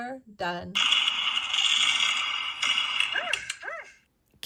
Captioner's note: fireworks bang; dog barks